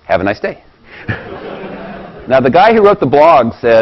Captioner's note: laugh